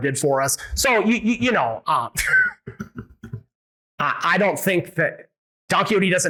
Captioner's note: laughs